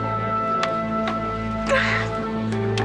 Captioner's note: sobs